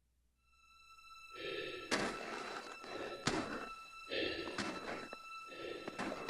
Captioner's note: suspenseful music; Chemock breathes heavily